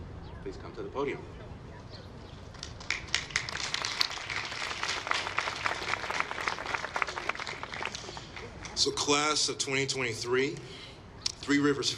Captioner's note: applause